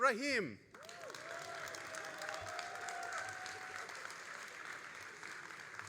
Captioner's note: all applauding and cheering